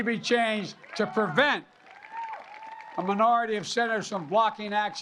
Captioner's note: applause